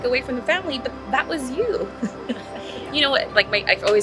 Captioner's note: laughs